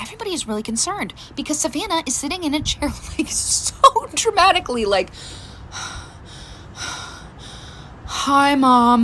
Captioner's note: laughs; short breathing sound